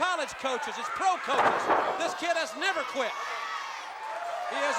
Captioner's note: body thudding